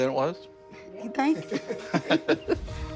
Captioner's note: laughing; uplifting music